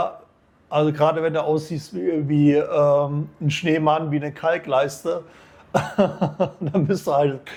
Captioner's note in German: gelächter